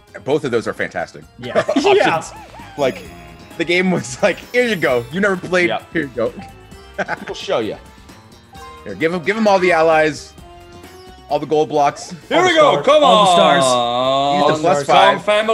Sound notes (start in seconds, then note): 1.4 laugh; 6.9 laugh